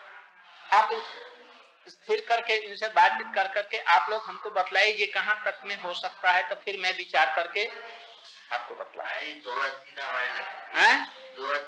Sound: Hindi

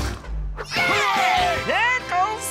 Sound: cheering

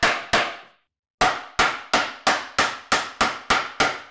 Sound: hammer bangs

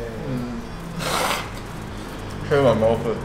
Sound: blows nose

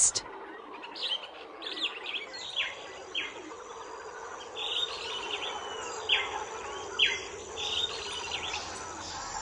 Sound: forest and howler monkey sounds

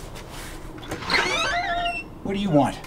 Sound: door opens

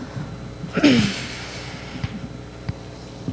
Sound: clears throat

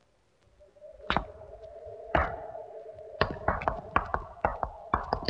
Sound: footsteps

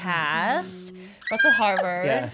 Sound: shrieking

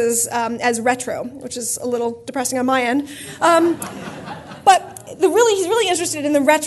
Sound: laughter

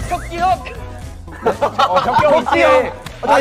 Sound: crack up

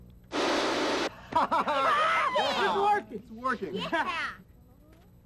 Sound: cheering

